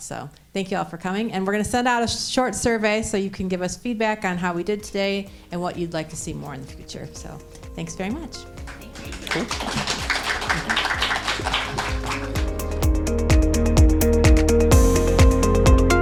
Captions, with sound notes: So thank you all for coming and we're gonna send out a short survey so you can give us feedback on how we did today (light music) and what you'd like to see more in the future. So thanks very much. (audience applauding) (light music continues)